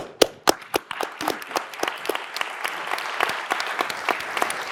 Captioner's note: audience applauding